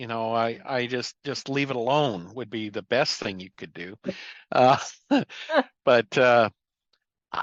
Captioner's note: laugh